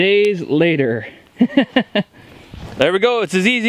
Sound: laughing

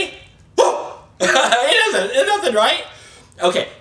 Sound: laughs

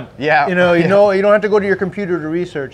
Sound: chuckes

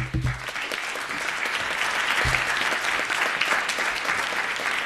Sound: audience applauding

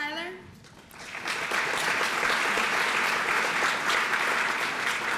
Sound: applause

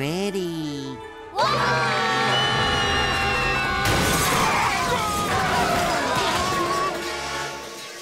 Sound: screaming

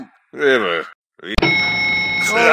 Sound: elevator ding

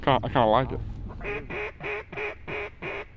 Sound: duck calling

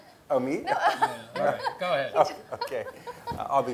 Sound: laugh

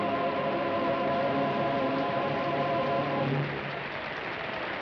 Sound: audience applauds

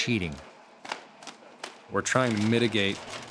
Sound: cutting plastic

